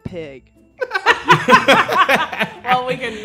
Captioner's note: everyone laughing